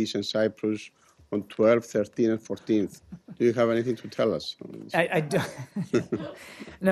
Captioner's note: laughter